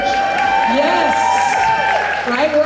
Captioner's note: audience Laughs